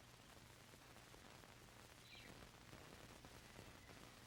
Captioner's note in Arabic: تغريد الطيور